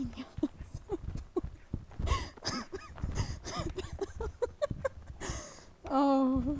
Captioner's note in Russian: смеется/плачет